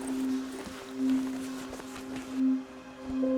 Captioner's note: items shuffling